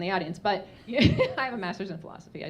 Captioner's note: laughing